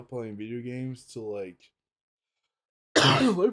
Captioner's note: coughs